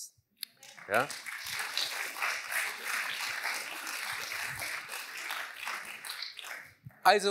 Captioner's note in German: Applaus